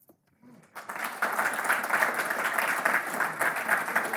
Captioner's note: applause